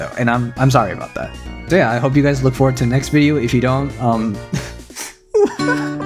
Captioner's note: cries